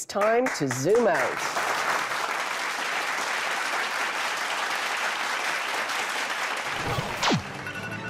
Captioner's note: applause